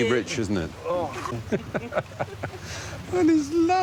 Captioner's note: Stephen laughs